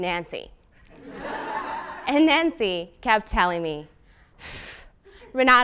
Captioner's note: laugh